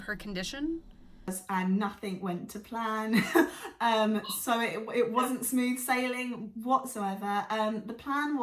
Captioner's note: laughs